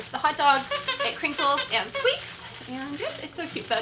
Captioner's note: squeaking and crinkling